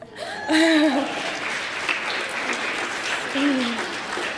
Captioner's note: cheering and applause